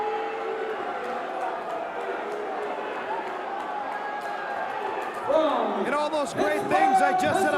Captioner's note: crowd cheering